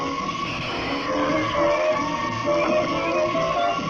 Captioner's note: screaming